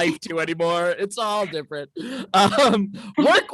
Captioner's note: laughs